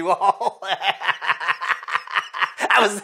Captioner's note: laughs